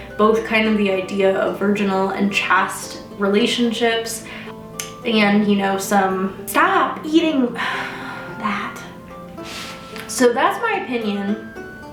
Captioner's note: sigh